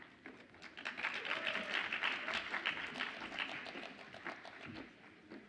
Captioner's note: audience applauds and cheers